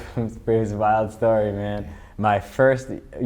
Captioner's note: laughs